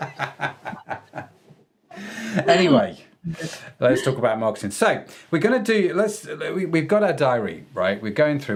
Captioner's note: laughing